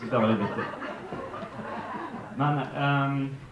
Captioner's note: laughter